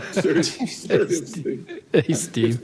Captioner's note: laughter